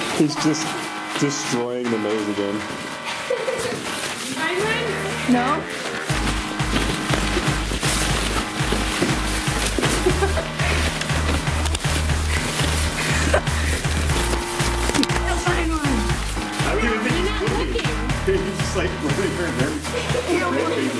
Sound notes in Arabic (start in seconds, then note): 6.3 الموسيقى متفائلا; 9.4 يضحك